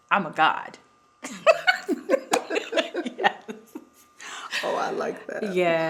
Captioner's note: both laughing